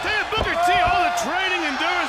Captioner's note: crowd cheering